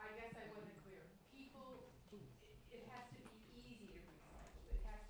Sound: speaking off microphone

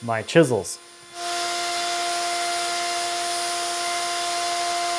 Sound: machine whirring

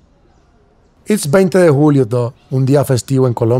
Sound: speaking spanish

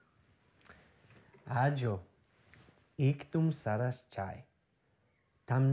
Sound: speaking Gujarati

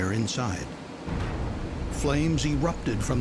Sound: sound of explosion

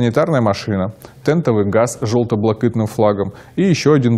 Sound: Ukrainian

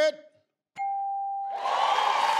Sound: bell chimes; audience applause

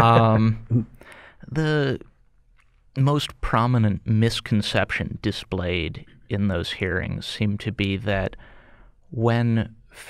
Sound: chuckle

